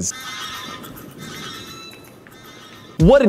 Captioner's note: dodo screeching